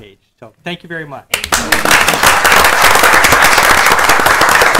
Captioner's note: group applauding